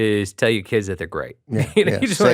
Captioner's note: chuckles